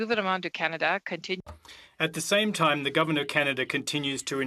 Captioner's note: speaking French